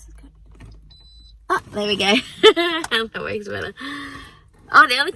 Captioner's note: giggles